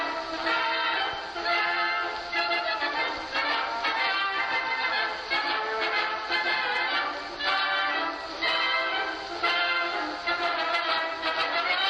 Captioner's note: speaking to herself